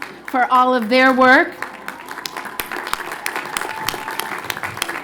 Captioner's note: applause; applause